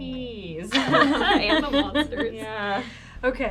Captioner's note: group laughs